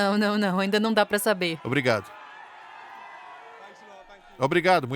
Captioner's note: crowd cheering